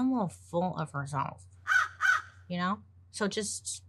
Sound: bird cawing

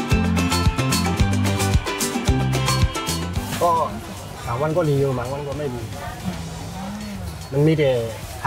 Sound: speaking Thai

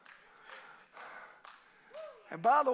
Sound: congregation applauding

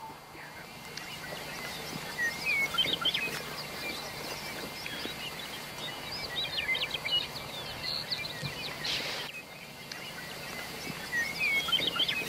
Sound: birds chirping

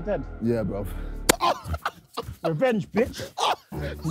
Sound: pained screaming

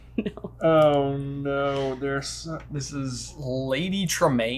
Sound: chuckles

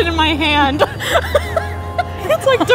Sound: laughing

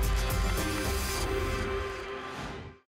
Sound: whoosh

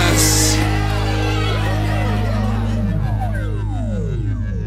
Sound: cheering

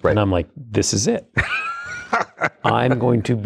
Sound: laughing

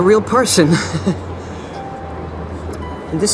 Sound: chuckle

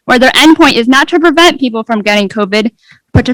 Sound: none

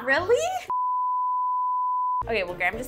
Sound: high pitched beep

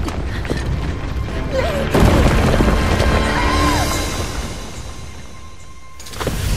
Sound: screams

